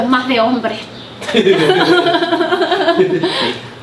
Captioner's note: laughing hard